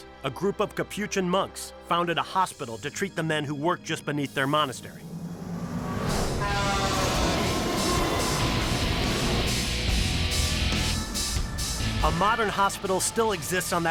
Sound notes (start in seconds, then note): 5.0 cars rev; 6.2 car horns honk